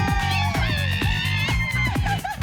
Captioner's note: laughs